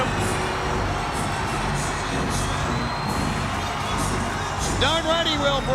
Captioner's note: dramatic music continues; crowd cheering